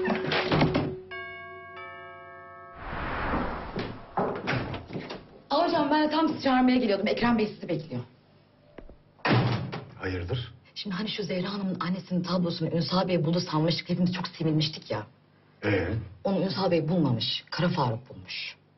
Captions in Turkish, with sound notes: (Kapı çalıyor.) Ah hocam ben de tam sizi çağırmaya geliyordum. Ekrem Bey sizi bekliyor. Hayırdır? Şimdi şu Zehra Hanım'ın annesinin tablosunu... ...Ünsal Bey buldu sanmıştık, çok sevinmiştik ya. Ee? Onu Ünsal Bey bulmamış, Kara Faruk bulmuş.